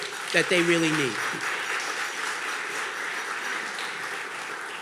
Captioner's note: audience clapping